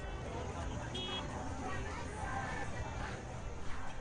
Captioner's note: cars honking